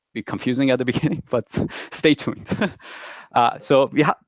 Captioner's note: chuckles quietly